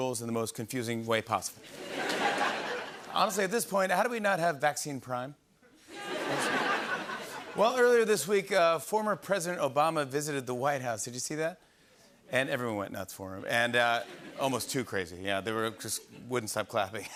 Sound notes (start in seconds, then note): 1.7 laughter and applause; 5.8 laughter; 13.8 laughter